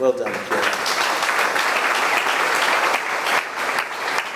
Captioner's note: audience clapping